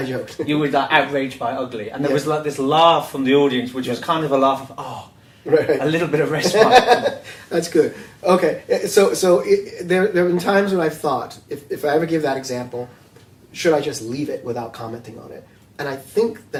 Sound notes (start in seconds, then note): 6.3 laughs